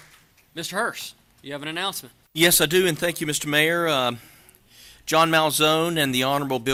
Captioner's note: applause